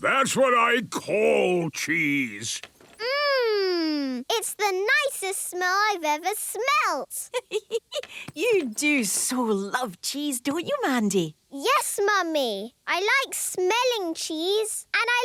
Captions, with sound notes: That's what I call cheese! - Mmmm! It's the nicest smell I've ever smelt! - (giggling) You do so love cheese, don't you, Mandy? - Yes, Mummy! I like smelling cheese.